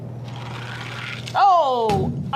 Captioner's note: toy car grating